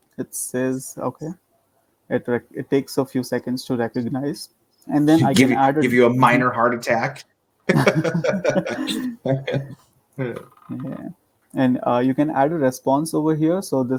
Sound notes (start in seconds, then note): 7.7 laughing